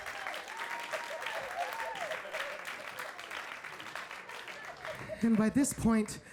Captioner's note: audience applauding and cheering